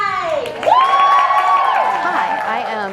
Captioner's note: cheering